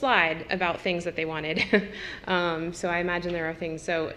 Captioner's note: laugh